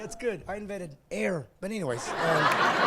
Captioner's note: laughing